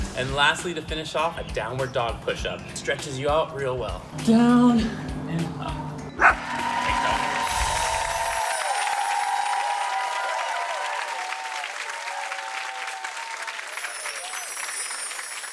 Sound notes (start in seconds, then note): 7.9 crowd cheering